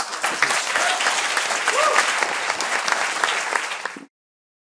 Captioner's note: applause